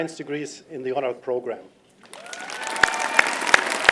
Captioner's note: applause